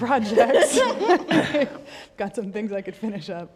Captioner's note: all laugh